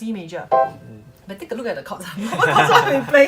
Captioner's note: laughs